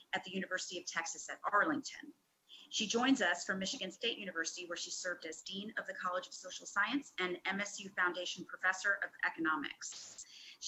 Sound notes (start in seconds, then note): none